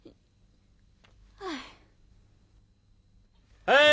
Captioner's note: sighed